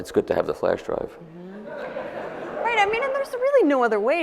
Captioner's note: audience laughs